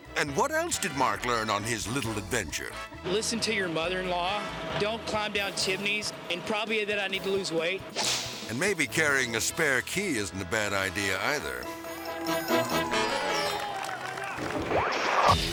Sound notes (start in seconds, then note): 12.2 bystanders applauding; 14.4 slides swooshing